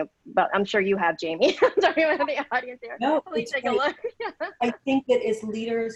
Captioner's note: laughing drowns out speaker